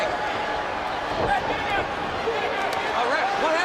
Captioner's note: crowd chatter